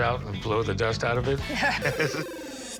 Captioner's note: chuckles